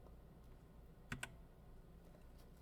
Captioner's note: keyboard clicks